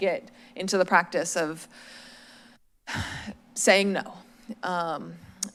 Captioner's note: deep breath